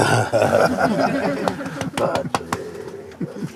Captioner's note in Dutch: gelach